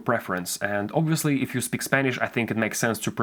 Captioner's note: English